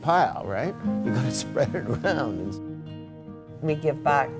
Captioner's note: laughing